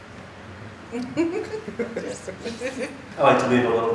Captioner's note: chuckling